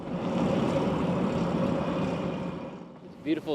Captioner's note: motorcycle driving